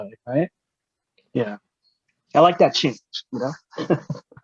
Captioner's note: laughs